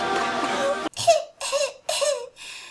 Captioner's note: feeble sound cough noises